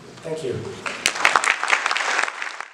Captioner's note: audience applauds